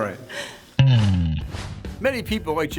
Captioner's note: air whooshing; guitar strums